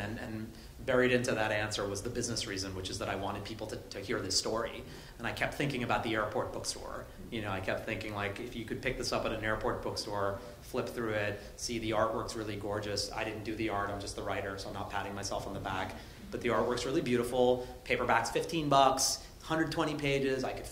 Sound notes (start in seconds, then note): none